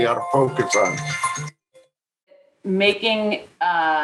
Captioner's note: phone ringing